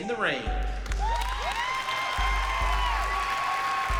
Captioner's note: cheering